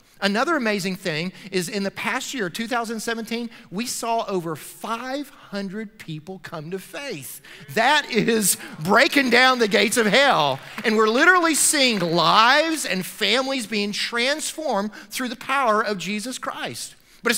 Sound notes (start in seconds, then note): 7.4 loud praising; 9.0 applause